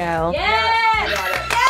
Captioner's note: clapping